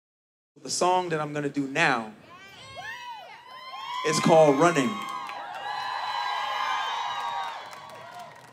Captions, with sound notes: - The song that I'm gonna do now (audience cheering) is called "Running." (audience cheering)